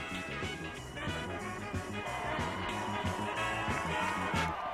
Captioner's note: crowd cheering